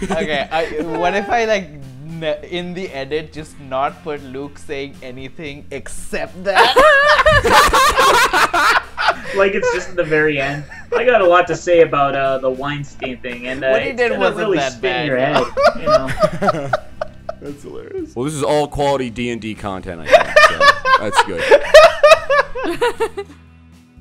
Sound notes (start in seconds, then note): 0.0 laughter; 6.5 laughter; 15.3 laughter; 15.8 laughs; 22.9 laughter